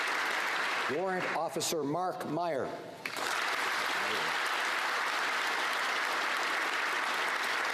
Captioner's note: applause